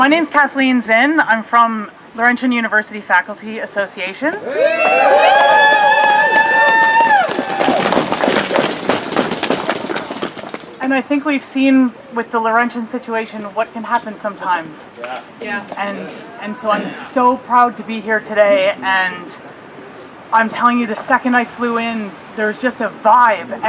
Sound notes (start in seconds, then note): 9.3 applause